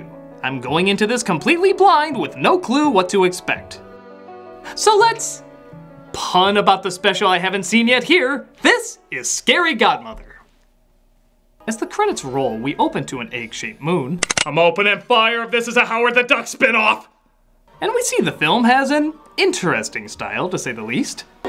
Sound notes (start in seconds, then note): 14.2 gun cocks